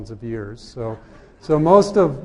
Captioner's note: laughter